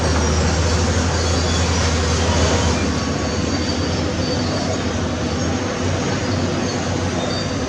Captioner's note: excavator Rumble